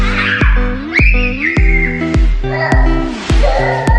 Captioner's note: screaming